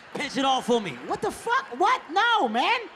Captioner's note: audience laughing